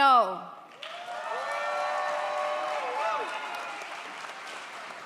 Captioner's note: audience applauds